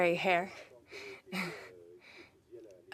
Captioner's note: speaking French